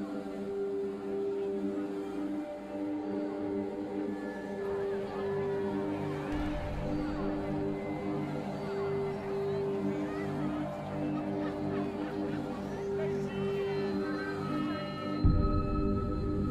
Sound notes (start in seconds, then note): 0.1 ominous ambient music; 7.2 crowd chattering